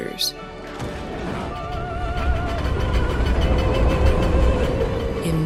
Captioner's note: train sounds